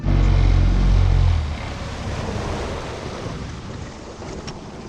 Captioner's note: boat motor rumbles